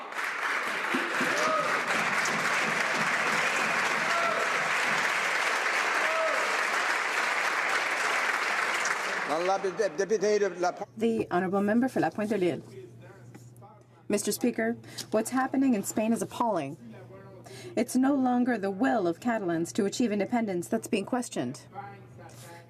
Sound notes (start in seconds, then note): 4.4 some Applause